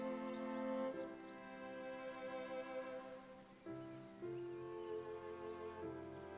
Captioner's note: birds chirping; gentle music